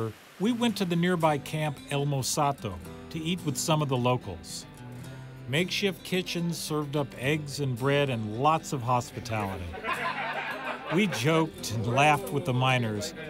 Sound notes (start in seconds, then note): 9.6 laughter